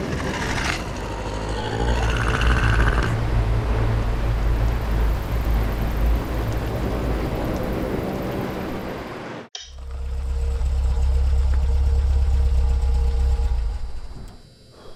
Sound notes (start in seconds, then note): 0.1 critter chittering; 9.8 light switch clicks; 12.0 machinery whirring